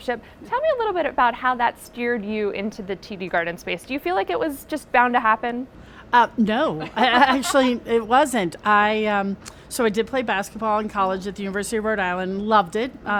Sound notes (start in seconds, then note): 6.8 laughs